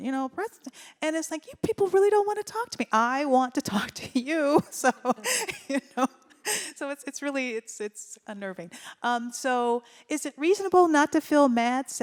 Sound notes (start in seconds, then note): 4.7 laughs